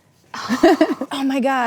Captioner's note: sighing